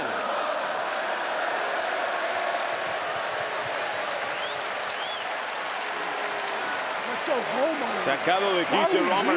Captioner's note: applause